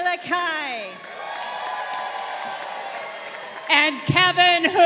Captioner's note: crowd cheering